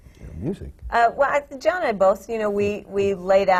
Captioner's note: laughs